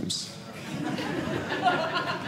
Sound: audience laughing

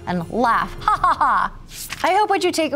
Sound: creator laughing

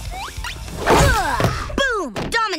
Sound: grunting

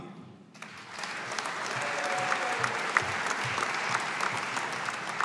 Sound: audience applauding

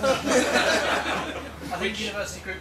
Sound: laughter

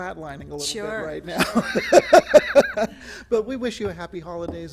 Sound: laughter

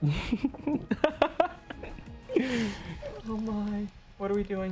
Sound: laughs hard

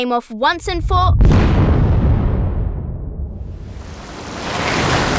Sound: explosion booms

